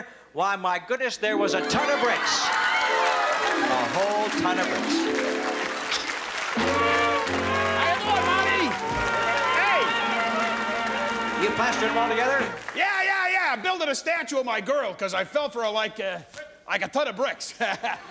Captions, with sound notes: Why, my goodness, there was a ton of bricks. A whole ton of bricks. [SAD TROMBONE] - How ya doin', Monty? Hey. - You plastering them all together? - Yeah, yeah, yeah, I'm building a statue of my girl because I fell for her like, like a ton of bricks.